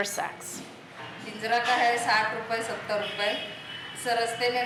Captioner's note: speaking Indian language